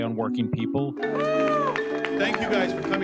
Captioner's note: people cheer